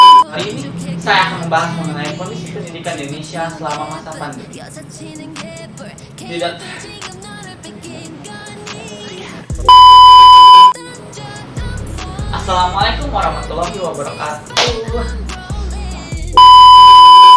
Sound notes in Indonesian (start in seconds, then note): 14.8 tepuk tangan